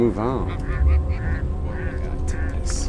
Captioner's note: ducks quacking